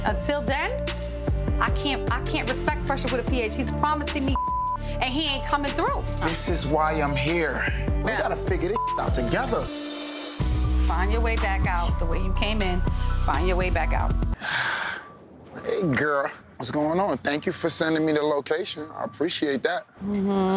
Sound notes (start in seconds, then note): 4.2 beep; 8.7 beep